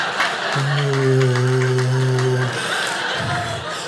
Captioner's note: audience laughing; groans; audience laughing